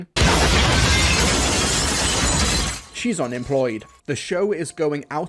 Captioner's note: explosion